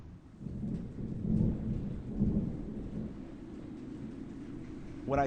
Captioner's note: thunder rumbling